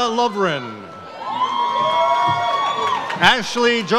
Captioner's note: audience cheers